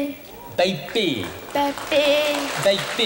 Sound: applause

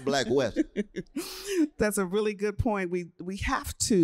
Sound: laughter

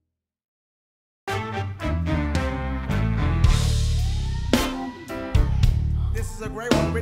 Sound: audience cheers

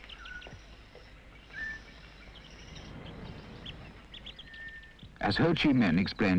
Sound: crickets whistling

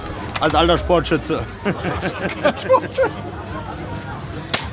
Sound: laughs

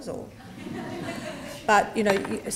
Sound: laughter

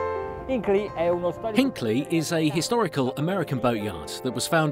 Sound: voiceover

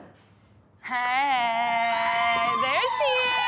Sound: Maddie screams

